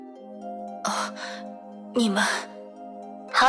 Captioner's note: gasp